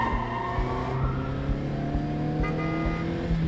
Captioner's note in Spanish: sonido de bocina